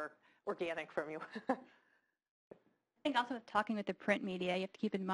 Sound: laugh

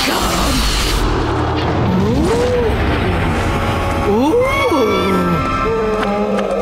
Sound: creature screeching

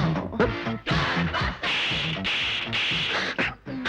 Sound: slaps

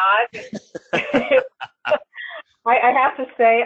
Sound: laughter

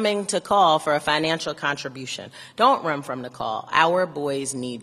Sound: none

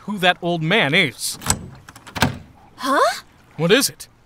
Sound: door lock engaging

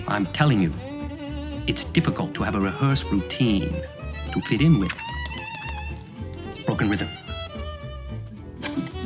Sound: tapping furiously

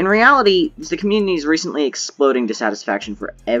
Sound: Minecraft noises fade in, and background music continues playing

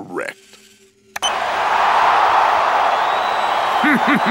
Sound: crowd cheering; El Matador giggles

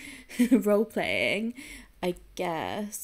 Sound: giggling

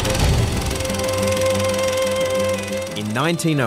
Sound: projector whirrs

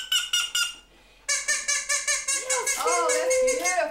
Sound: blows duck call; squeaks duck call

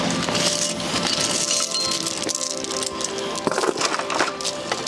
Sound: chain clanging

